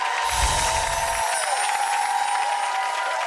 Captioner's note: applause